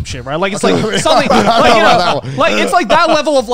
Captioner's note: all laughing